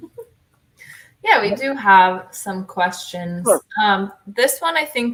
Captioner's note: laughter